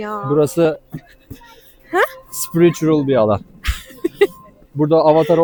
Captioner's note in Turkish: kahkaha; kahkaha